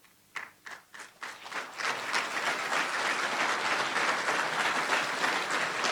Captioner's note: applause